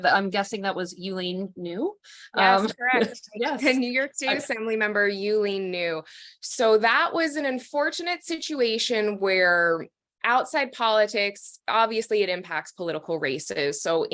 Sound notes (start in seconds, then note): 2.4 laughing